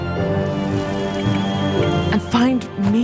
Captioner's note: kettle whistles